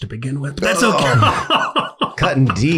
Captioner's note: laughs